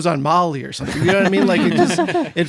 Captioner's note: laughs